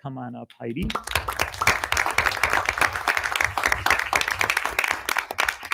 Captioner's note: audience applauding